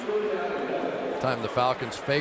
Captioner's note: pa announcement